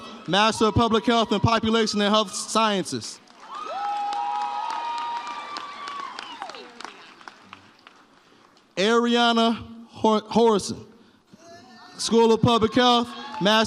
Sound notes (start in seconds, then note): 3.4 audience cheers